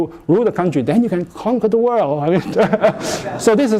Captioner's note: laughter